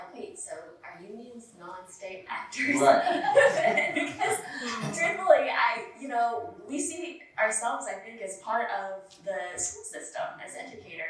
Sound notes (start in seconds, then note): 5.6 laughter